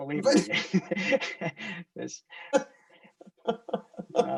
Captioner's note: both laughing